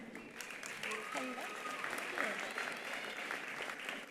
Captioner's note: attendees applauding; attendee cheering